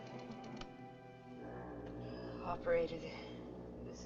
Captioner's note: foghorn Blows